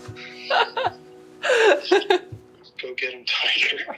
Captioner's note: both laughing